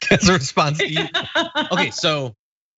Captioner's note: laugh